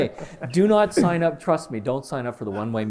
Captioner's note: laughter